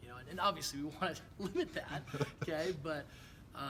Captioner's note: laugh